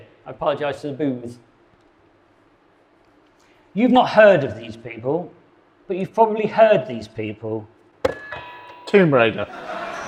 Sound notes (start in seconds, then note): 8.1 buzzer blares